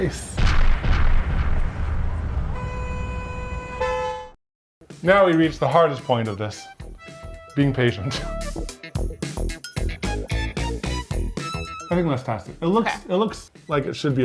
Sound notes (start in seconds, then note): 1.0 dramatic music; 2.6 horns honking; 8.6 upbeat music